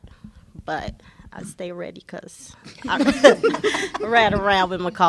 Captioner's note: laughter